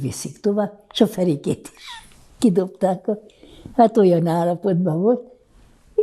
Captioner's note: laughing